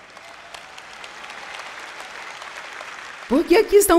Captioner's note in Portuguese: audiência aplaude